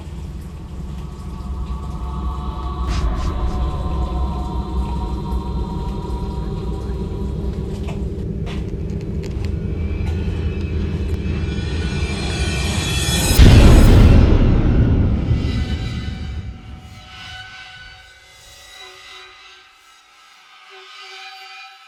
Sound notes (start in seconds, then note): 1.8 tense, dramatic music; 1.8 water trickling; 17.8 tense, dramatic shrill music